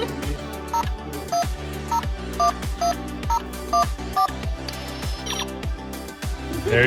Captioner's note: beeps